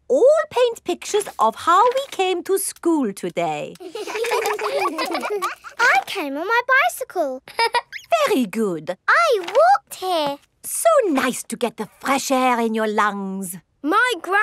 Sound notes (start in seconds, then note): 3.8 all laughing; 7.5 laughs